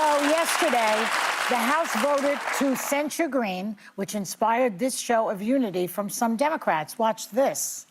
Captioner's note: applause